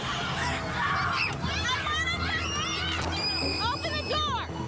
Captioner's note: children yelling